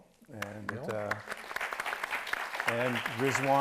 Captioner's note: audience applauds